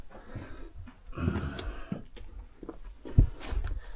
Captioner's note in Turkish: boğazını temizler